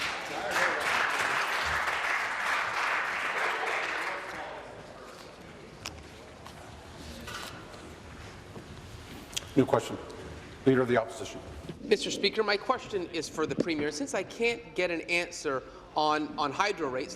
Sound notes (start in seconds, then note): 4.1 applause